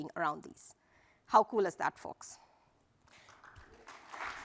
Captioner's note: applause